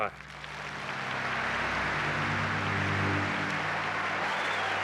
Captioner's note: applause